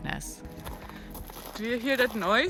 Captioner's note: rocks crunching underfoot